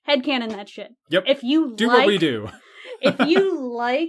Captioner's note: laughs